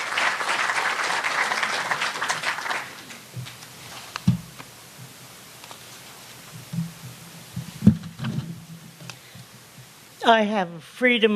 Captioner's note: applause